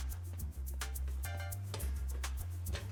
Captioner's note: footsteps